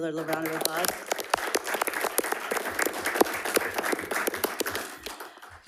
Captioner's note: attendees clapping